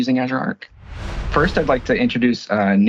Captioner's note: logo swooshes